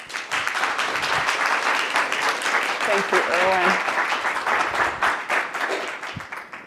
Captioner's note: audience applauds